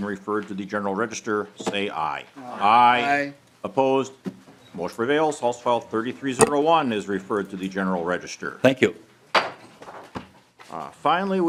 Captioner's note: chorus of ayes